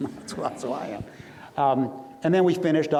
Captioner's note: audience laughs